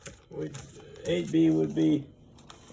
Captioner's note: taps papers